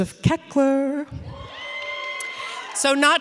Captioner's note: audience cheering